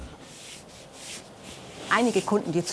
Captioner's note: scraping noises